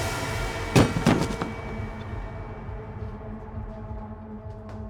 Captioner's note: dramatic music; pipe clattering